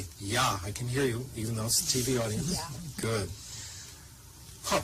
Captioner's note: speaks German